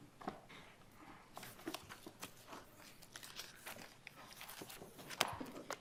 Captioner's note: shuffling of papers continues